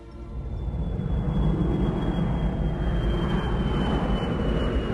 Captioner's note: airplane Engine